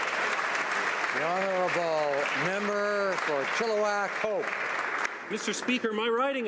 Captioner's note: applause